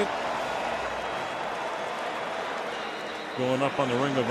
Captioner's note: cheering